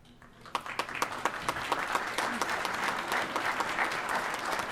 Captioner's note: applause